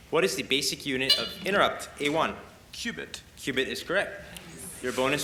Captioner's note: buzz